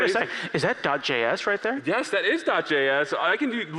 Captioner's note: laughter